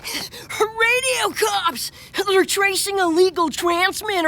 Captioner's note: panting